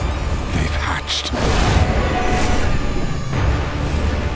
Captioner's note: dragon roars; dramatic music